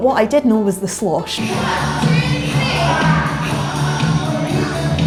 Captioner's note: counting beats loudly while the slosh plays